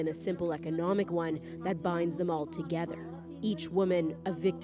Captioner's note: speaking alternate language